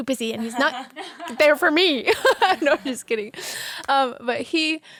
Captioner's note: laughs